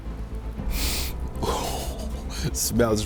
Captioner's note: sniffs